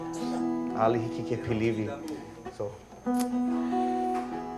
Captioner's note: guitar music; speaking in Hawaiian language; guitar music